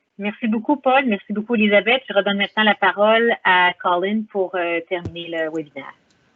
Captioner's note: speaking foreign language